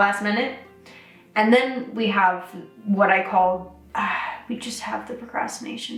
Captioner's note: sighs